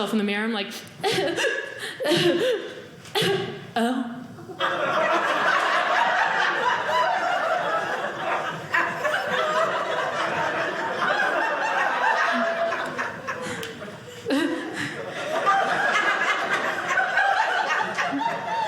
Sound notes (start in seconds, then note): 4.3 audience laughing